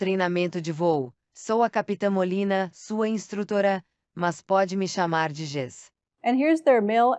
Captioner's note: female voice 7 speaking portuguese; speaking portuguese